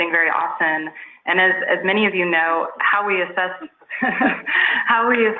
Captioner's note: laughs